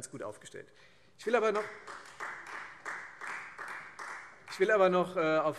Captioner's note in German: Beifall Freie Demokraten